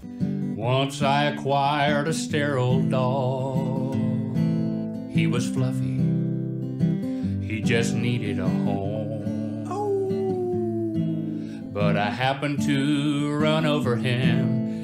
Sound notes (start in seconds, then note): 9.6 soft howl